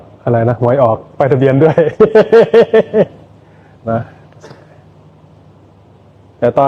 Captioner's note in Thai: เสียงหัวเราะ